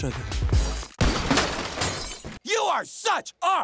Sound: gun fires

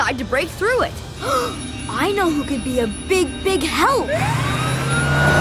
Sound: gasping

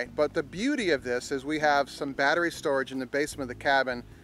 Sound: none

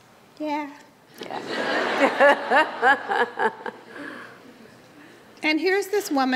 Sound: laughs

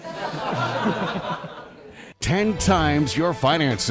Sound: laughter

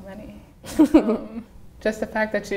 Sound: laughing

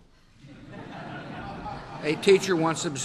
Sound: laughter

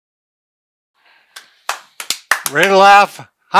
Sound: crowd cheering

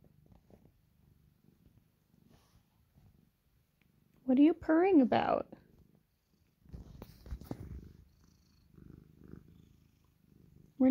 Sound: purring cat

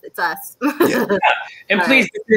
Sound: laughs

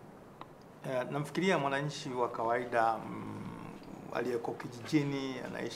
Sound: speaking in swahili

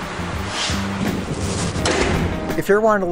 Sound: door closes

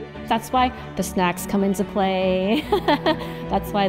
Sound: laughs

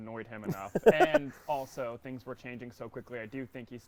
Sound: laughing

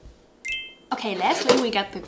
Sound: bright chiming

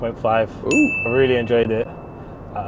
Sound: bell chimes

